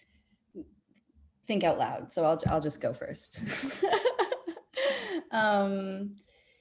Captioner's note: laughing